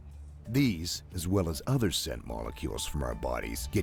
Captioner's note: voiceover